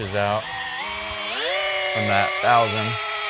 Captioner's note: machine whirring